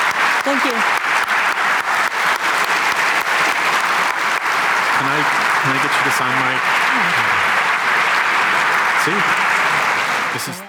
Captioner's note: applause